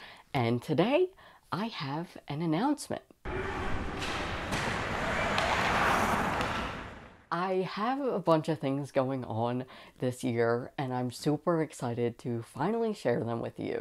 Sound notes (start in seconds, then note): 3.3 skates clashing